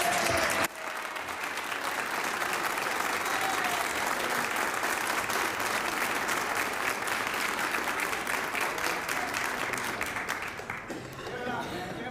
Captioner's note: cheering and Applause